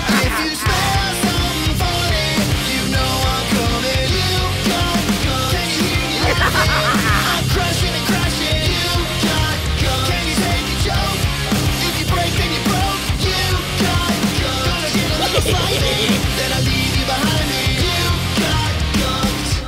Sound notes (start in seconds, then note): 6.0 insane laughter; 14.8 mischievous laughter